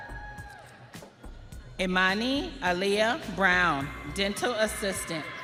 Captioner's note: audience cheering